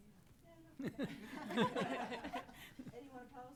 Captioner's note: all chuckle